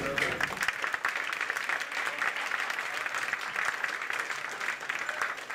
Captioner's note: applause